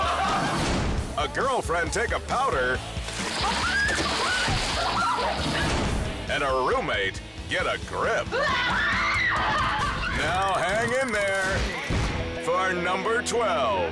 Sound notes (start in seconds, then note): 0.0 friends laughing; 3.0 water splashes; 3.4 girlfriend screams; 8.3 screams